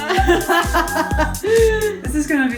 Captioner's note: laughter